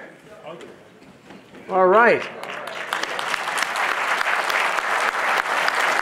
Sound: audience applauding

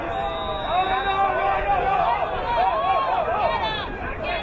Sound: whistle blowing

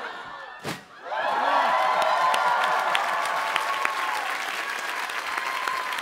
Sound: softly pops; cheering; audience applauding and cheering

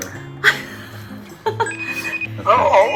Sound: just laughing

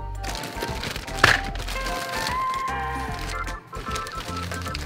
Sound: thumping noise; crinkling of bags

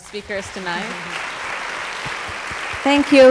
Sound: applause

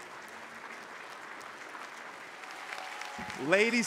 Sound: audience applauding

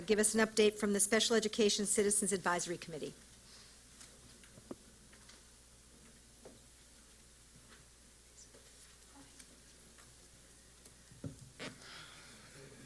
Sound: silence

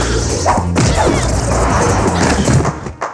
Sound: whack

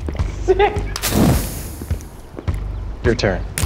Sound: flame extinguishing

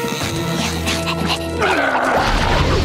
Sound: groaning

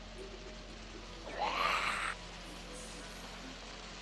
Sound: snarling

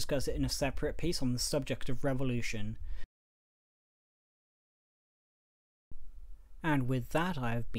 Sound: awkward pause

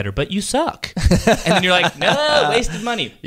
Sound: laughs

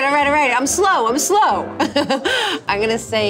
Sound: laughing

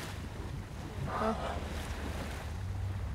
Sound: whale sounds

